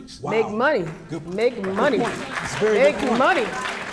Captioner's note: clapping